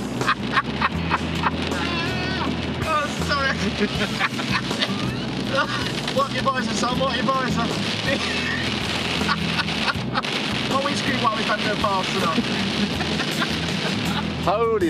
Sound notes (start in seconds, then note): 0.7 and camera man laughing, whilst driving in a warm dry car